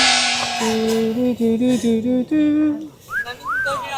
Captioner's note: in a good mood, humming